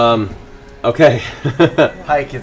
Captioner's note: laughs